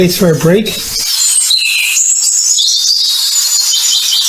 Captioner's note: birds chirping